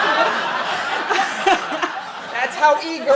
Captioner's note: laughing